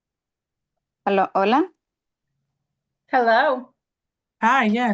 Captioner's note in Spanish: hablando en idioma extranjero